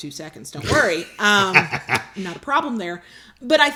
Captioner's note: laughs